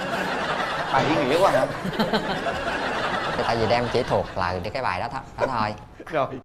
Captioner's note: laughter